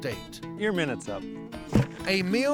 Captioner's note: thud